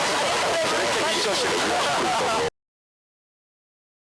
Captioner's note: laughs